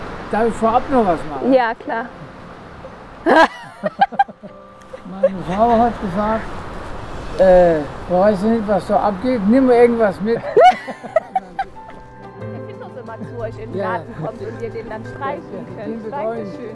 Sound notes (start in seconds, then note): 3.2 laughter; 11.3 quietly